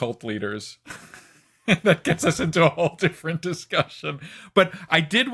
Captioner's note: laughs